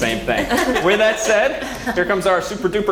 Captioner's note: laugh